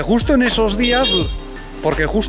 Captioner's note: edit: A motorcycle honks